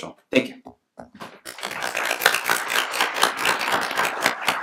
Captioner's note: applauding